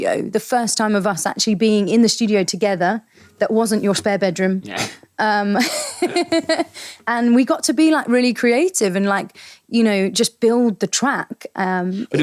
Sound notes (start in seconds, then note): 5.6 both laughing